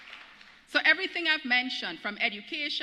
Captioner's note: applause